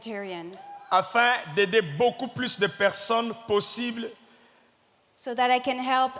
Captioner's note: speaking in French